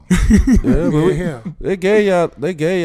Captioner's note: laughing